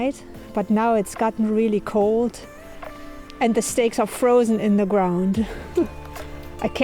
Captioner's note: laughs